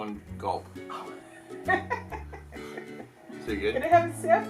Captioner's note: laughs